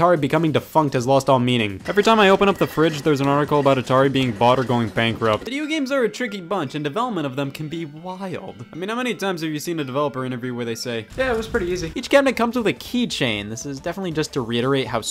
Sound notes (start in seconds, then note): 11.0 fire crackling